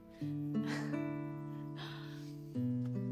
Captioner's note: laughing softly